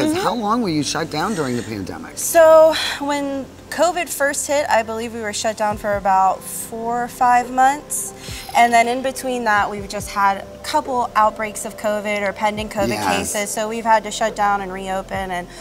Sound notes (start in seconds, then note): 2.7 sighs